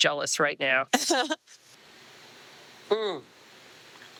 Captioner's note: laughing; moaning in satisfaction